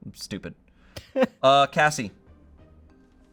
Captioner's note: laughs